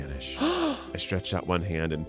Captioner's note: gasps